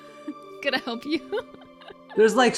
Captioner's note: laughs